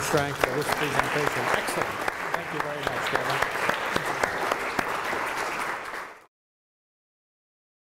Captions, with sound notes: for this presentation, thanks so much. Thank you very much. (audience applauds)